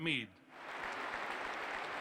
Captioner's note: applause